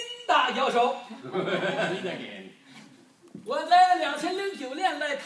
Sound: speaking foreign language; man laughing

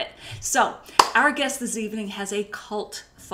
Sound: claps

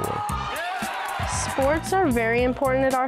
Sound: crowd cheering

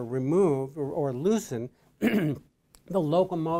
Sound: coughs

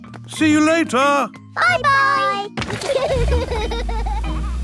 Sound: laughter

